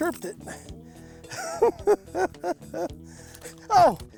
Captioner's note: laughs